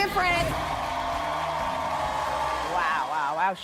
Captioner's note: audience applauding